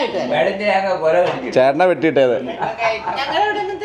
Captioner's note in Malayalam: പൊട്ടിച്ചിരി